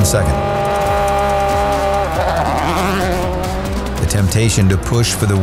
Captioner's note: car engine revving